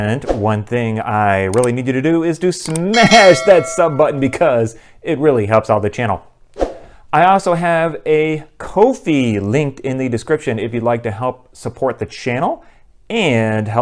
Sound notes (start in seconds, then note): 0.0 typing; 2.7 bell